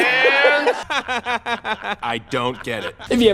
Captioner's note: Emmet laughing